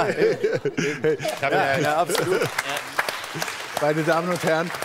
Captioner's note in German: Applaus